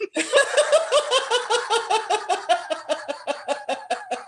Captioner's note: laughter